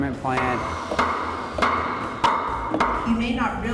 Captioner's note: hammer pounding